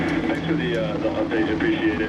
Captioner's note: man Over Radio